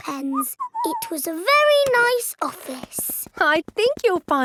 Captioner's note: whistles